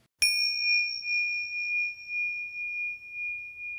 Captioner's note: bell chimes